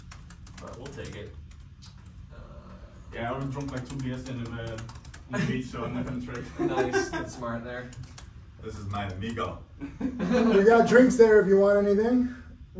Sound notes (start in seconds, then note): 5.3 laughing; 9.8 laughs